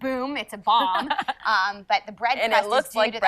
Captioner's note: laughs